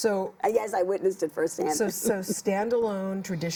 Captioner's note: laughs